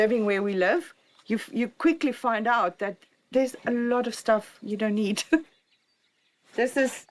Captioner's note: laughs